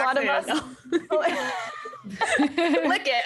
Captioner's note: all laugh